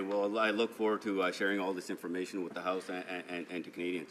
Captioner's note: some Applause